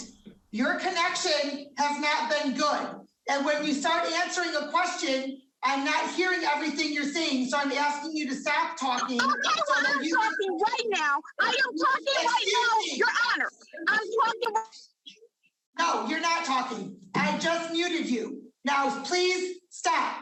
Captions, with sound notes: Your connection has not been good. And when you start answering a question, I'm not hearing everything you're saying, so I'm asking you to stop talking-- - Okay, well, I'm talking right now. I am talking right now, Your Honor! - Excuse me? - I am talking-- [no speech] - No, you're not talking. I just muted you. Now please stop,